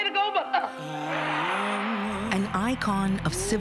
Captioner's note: cheering